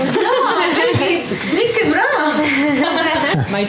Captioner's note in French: rires